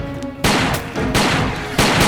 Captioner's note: gun fire